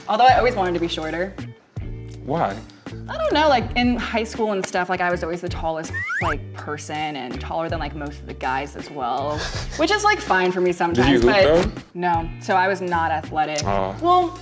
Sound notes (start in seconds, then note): 9.3 laughs